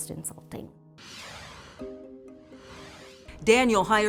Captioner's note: dramatic music; logo whooshing